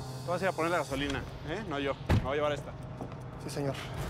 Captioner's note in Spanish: portazo